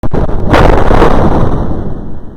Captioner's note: bass boosted slaps